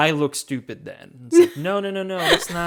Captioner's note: laughs